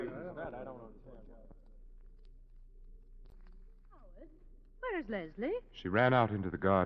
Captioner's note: chattering